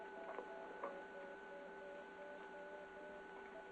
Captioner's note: electronic beeping